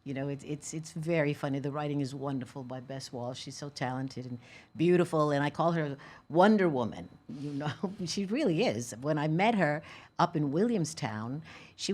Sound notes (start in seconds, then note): none